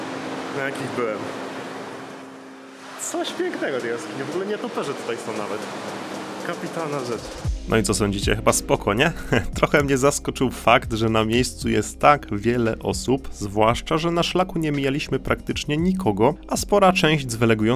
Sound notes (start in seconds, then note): 9.1 laughter